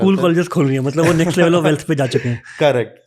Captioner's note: speaks in Hindi